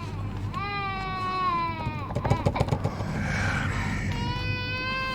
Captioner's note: rattling